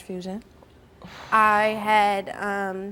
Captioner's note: long exhale